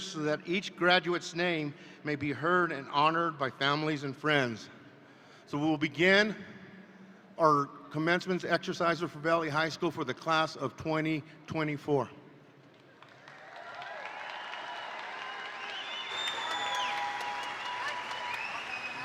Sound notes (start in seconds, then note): 12.9 attendees applaud; 13.1 attendees cheer